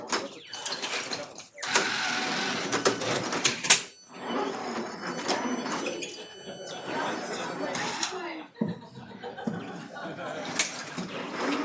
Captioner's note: robot sounds